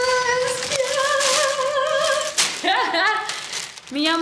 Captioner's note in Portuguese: Cantarolar